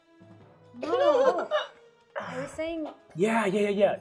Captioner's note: laughing